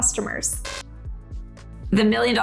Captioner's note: static buzzes